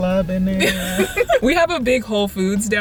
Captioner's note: laughter